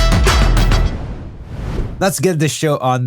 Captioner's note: screen whooshing